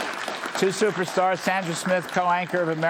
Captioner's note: applause